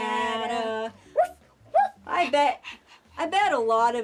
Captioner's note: barking